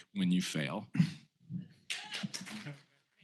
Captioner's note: cheers,applause